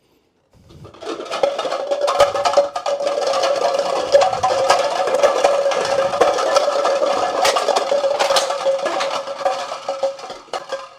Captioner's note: clattering